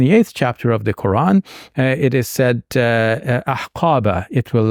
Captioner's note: speaking in Arabic